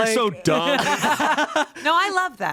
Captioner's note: everyone laughs